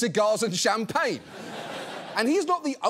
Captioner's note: audience laughs